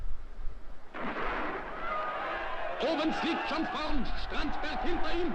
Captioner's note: starter pistol, cheers